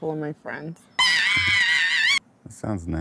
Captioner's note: screaming